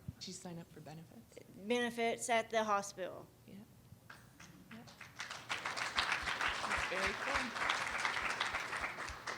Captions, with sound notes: - Did you sign up for benefits? - Benefits at the hospital. - Yeah. (applause)